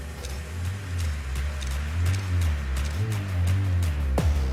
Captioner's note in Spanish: Sonidos del disparador